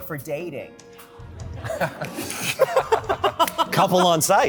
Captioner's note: laughter